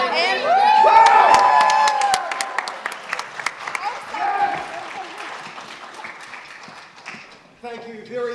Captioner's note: cheering and Applause